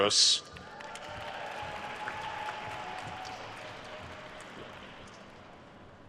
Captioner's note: attendees cheering and applauding